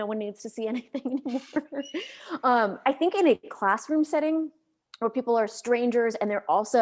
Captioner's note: laughs